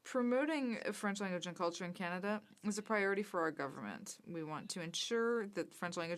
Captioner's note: speaking french